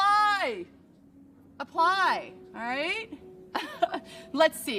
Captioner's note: chuckles